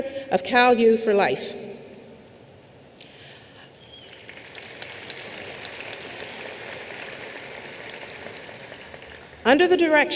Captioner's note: applause